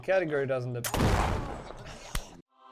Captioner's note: gunshot sound